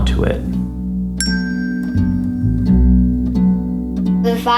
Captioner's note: chimes